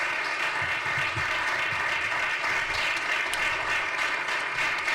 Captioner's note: audience applauding